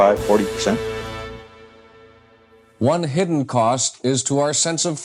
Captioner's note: soundbite of archived recording